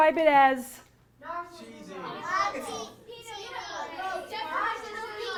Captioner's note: audience yells adjectives